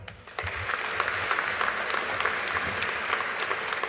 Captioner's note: audience applauding